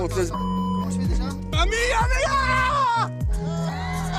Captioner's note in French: il crie; ils rient